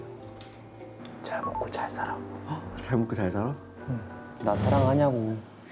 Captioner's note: hmph